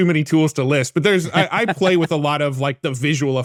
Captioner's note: laughing